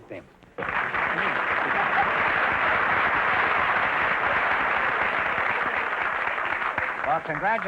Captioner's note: applause